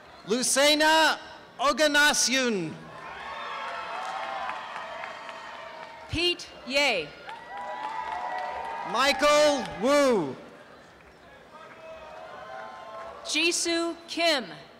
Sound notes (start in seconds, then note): 2.9 cheering and applause; 7.2 applause